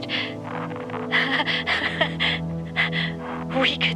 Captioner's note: hysterical laughter